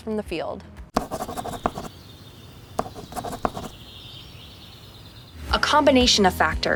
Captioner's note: logo scratching; birds chirping